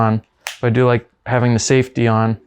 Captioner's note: lid snapping